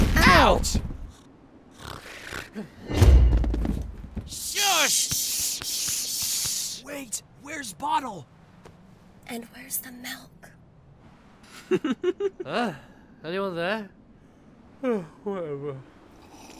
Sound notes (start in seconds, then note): 1.8 snores, snorts; 6.9 whispering; 11.6 giggling